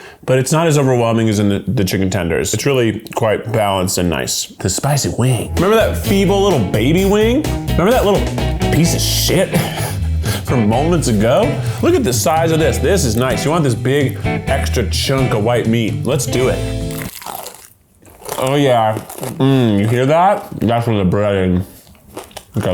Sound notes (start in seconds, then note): 17.6 music halts; 17.9 crunching